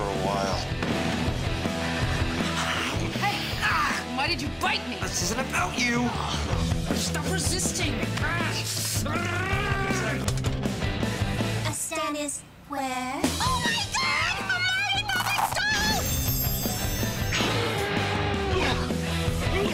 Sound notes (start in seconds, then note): 2.4 groans; 6.1 sighs; 8.7 grunts